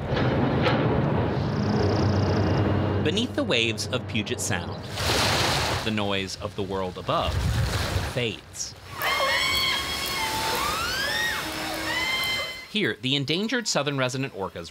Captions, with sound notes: [ Construction noises ] -Beneath the waves of Puget Sound, the noise of the world above fades. [ Seagulls squawking ] Here, the endangered Southern Resident orcas